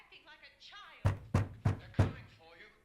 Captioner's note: loud rapping on door